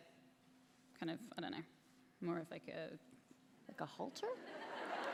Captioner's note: laughter